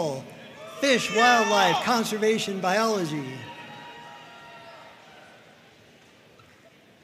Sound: audience cheering and applauding

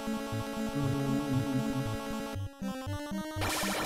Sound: humming along

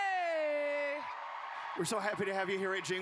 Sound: cheering

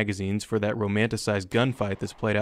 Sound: gunfire

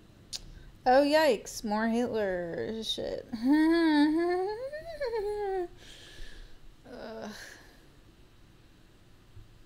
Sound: awkward laugh

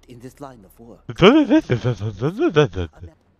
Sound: mocking his sputtering

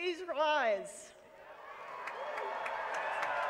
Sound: applause

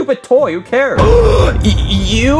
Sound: Junior gasping

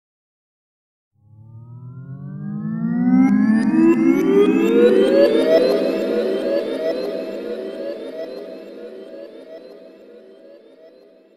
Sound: sound of echo rewind

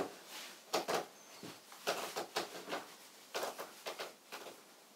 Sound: floorboards creak

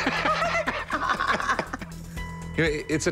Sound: laughter

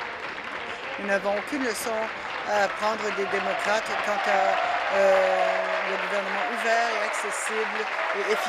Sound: applause

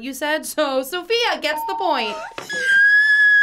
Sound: bell rings

